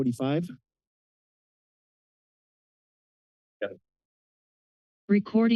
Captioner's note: silence